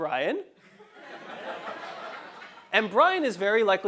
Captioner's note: laugh